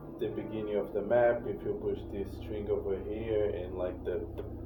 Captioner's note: none